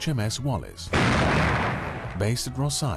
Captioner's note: gun firing